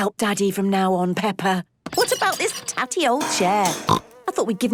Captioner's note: snorting